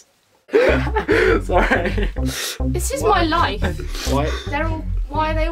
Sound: loud laughing

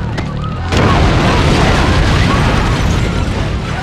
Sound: fire bursting; glass shattering

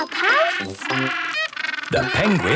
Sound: honking

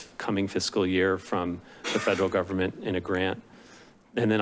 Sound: coughs

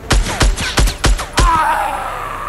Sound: gunshot bangs; Peeley screaming

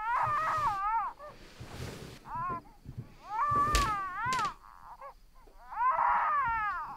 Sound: baby continues to cry

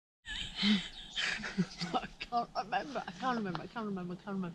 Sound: laughter

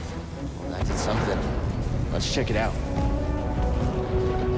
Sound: more explosions

